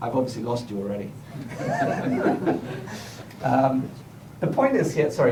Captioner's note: laughter